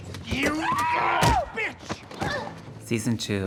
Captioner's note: screaming